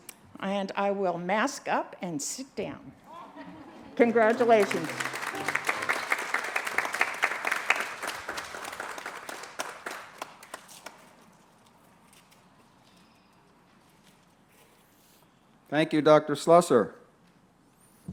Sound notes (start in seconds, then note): 3.1 laughter; 6.0 applause and music